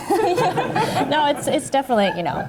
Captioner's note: laughing